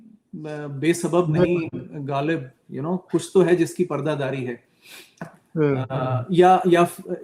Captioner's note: nasal voice; nasal voice